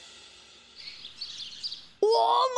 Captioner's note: birds chirping